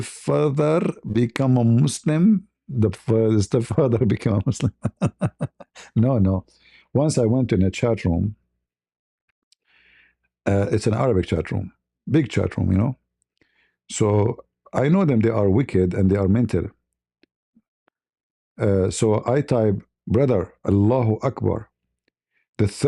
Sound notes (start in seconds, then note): 4.5 ketawa